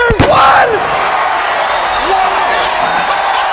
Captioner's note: audience cheering; laughing